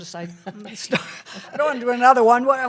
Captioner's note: laughter